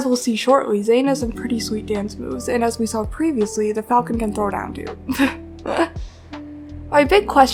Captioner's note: laughs